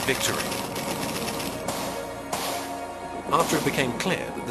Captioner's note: guns blasting